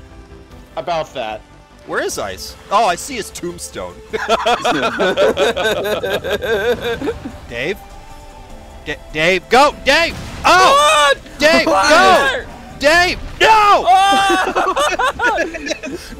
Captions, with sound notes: About that... Where is Ice? Oh, I see his tombstone... *group laughter* Dave? Dave? Go! Dave, Oh! Dave, Go! Dave! No! Oh-hoh-hoh!